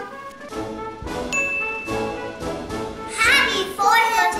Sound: bell dings

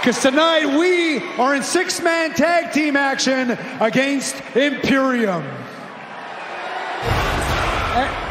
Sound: cheering

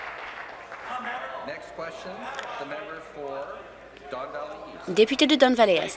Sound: applause

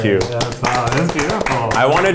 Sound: applauding

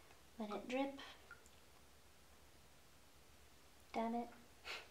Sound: bleach dripping

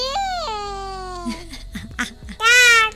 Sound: mommy giggles

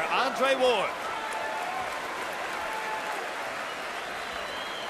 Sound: cheers and applause

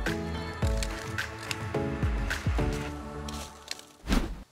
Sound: raking

